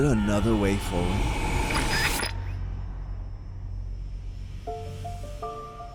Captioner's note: plane engine roars; electronic whirring